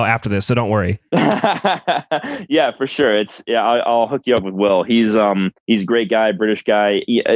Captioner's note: laughs